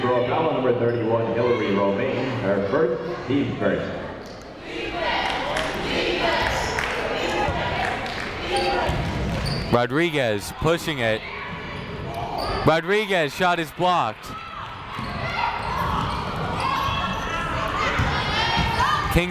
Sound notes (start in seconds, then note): 0.2 muffled voice speaking over speaker; 4.6 people chanting in the crowd; 15.0 people shouting in the crowd